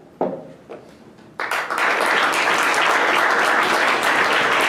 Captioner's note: applause